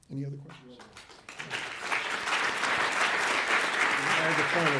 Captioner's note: audience applauds